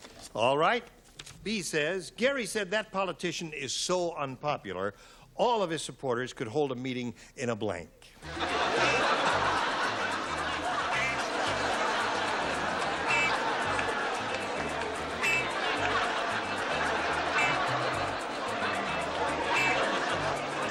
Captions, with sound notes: - All right. B says, Gary said, that politician is so unpopular, all of his supporters could hold a meeting in a blank. [laughter] [upbeat music]